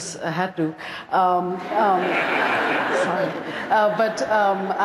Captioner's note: laughter